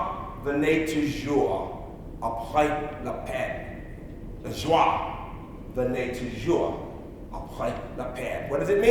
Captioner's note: speaking in French